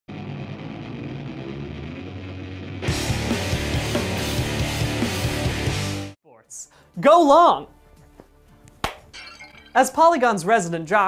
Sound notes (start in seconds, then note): 9.0 glass breaking